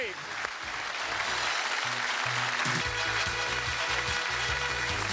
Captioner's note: applause